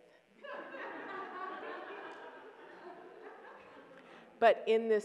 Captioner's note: audience laughs